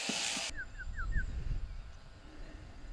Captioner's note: shepherd whistles